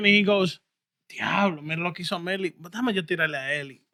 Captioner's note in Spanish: Hablando en idioma extranjero